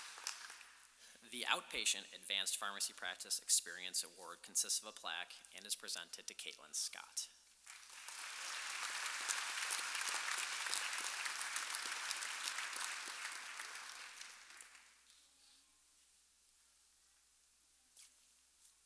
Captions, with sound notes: The Outpatient Advanced Pharmacy Practice Experience Award consists of a plaque and is presented to Katelyn Scott. (audience applauding)